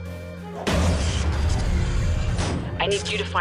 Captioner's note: thump, electric sounds